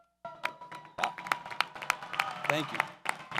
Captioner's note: audience cheers